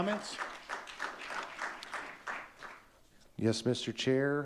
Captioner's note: audience clapping